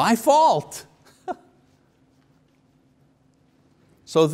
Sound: chuckles

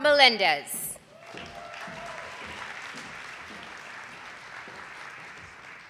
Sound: audience applauding

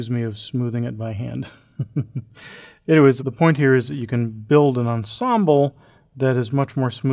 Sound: laugh

